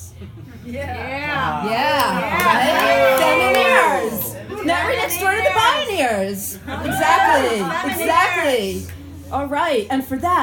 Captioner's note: crowd cheering